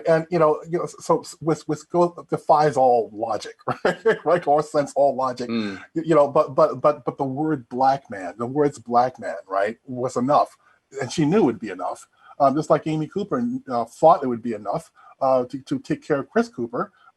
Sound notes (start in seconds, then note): 2.9 chuckling